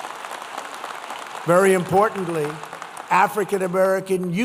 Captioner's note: applause